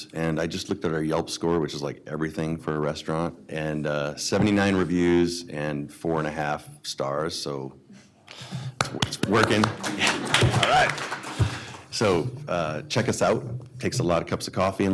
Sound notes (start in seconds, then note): 8.8 clapping